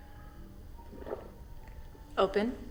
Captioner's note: David gulping